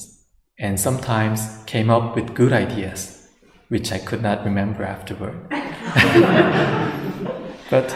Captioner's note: laughter